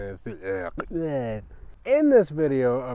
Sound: disgusted mumbling

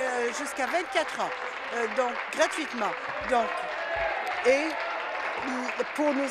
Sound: applause

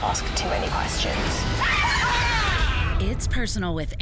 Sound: screaming

